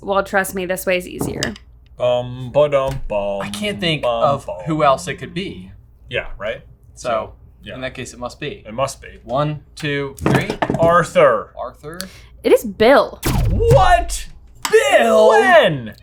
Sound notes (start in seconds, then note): 9.9 boards clack; 13.2 laser zaps